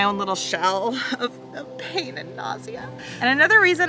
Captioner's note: airplane roars